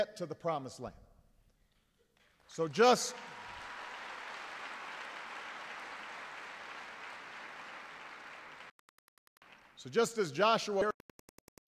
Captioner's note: applause